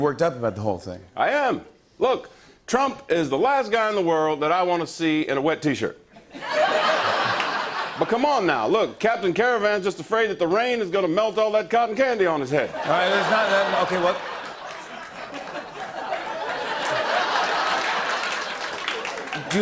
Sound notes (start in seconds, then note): 6.1 laughter; 14.6 laughter and applause